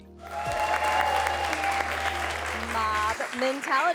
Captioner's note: all cheering and applauding